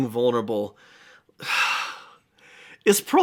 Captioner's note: sighs